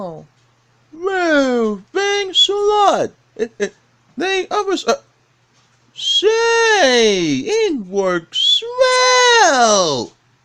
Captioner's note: laughs